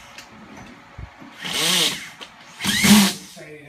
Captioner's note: drill noise